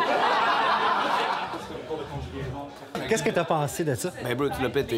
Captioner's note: laughs